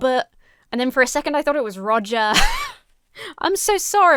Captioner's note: laughs